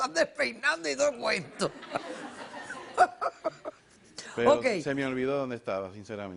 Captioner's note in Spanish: Risas